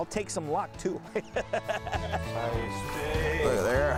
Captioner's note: laughter